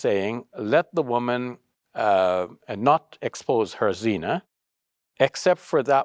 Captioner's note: speaks Arabic